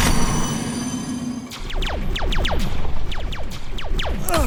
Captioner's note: laser shooting